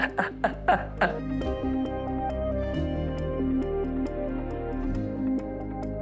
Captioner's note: laughing